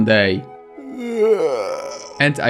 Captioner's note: yawn